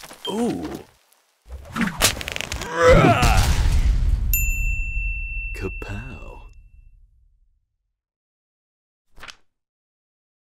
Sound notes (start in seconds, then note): 2.5 stone slamming; 2.8 man yelling; 4.3 bell dinging